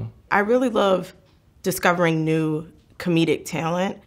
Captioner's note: none